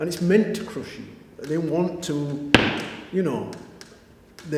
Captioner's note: bangs chair